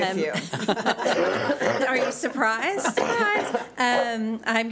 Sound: laughing and coughing

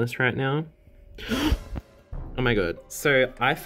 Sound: gasping

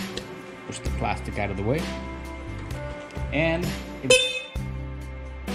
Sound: meep

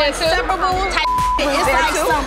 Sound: beep

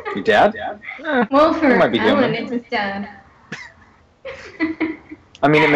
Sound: laughter

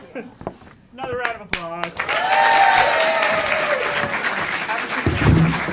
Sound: audience applauding

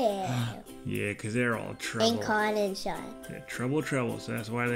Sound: gasp

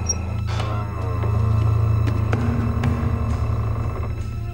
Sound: suspenseful music; door creaking

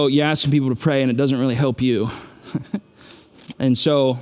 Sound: chuckles

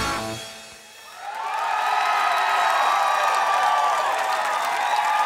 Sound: audience cheering

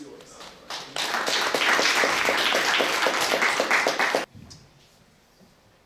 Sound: audience applauding

